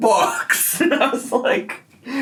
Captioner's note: laughing